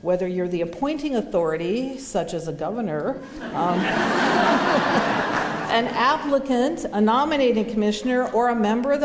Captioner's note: laughter